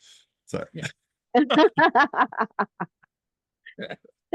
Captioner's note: all laugh